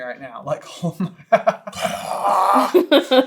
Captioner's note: laughing